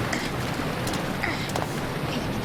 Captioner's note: gasping